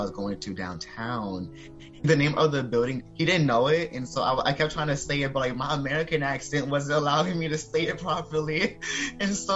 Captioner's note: laughing